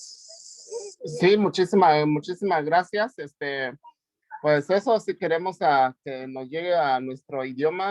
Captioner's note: audio distortion